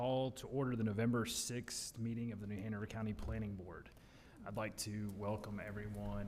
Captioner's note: gavel